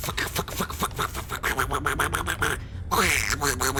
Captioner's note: duck noises persist; turns into duck noises